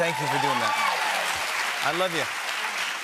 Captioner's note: cheers and applause